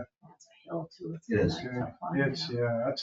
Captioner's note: speaks distantly